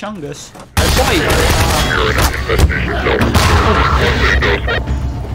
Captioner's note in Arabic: إطلاق نار